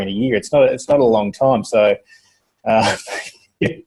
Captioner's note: laughs